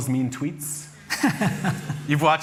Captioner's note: chuckles